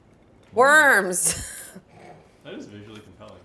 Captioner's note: chuckles